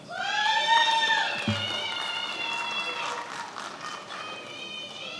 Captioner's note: attendees applauding and cheering